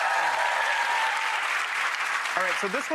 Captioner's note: audience cheering and clapping